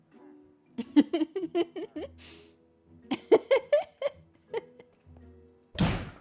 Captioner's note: laughs